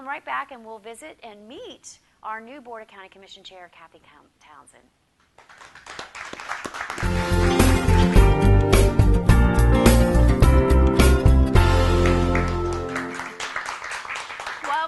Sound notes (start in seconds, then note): 5.3 applause; 11.8 applause